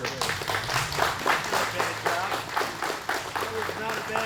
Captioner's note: applause